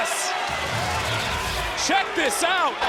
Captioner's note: crowd cheering; graphics humming